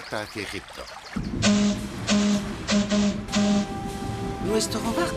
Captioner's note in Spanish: silbato